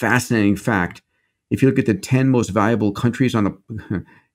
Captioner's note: laughs